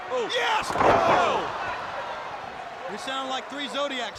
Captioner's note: body thuds